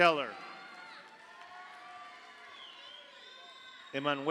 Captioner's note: audience applauds; audience cheers